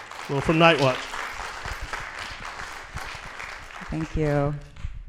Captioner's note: applause